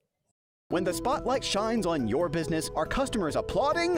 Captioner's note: voiceover